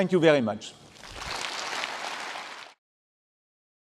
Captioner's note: applause